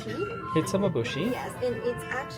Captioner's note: speaks Japanese; repeats Japanese words